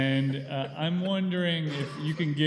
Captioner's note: laughter